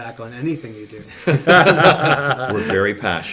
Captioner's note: laughing